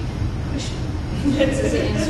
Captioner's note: laughter